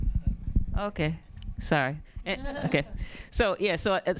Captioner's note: audience laughing